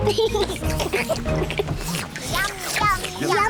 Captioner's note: all slurp